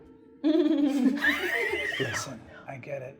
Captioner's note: laughing